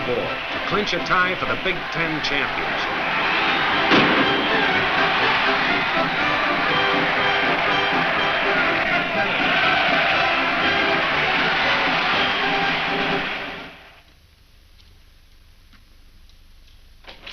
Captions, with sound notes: to clinch a tie for the Big 10 championship. (gunshot) (crowd cheering)